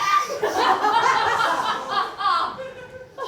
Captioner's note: evil laugh